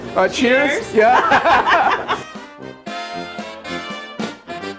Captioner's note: laughter